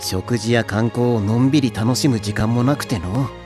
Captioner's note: none